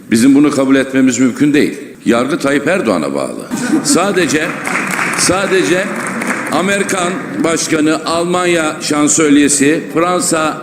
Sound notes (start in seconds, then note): 3.8 cheers